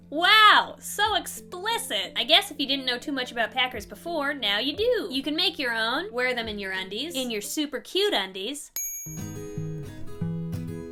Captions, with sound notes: Wow! So explicit! I guess if you didn't know too much about packers before, now you do! You can make your own, wear them in your undies. In your super cute undies! (ding!) (acoustic guitar)